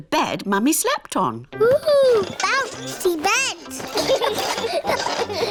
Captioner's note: children laugh